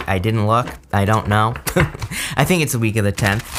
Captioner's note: chuckles